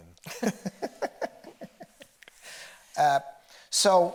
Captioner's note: both laughing